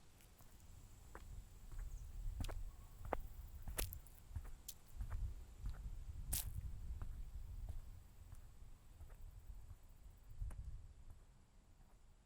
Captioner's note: footsteps